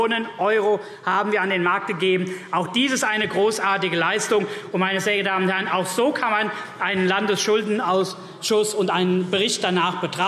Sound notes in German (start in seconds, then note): none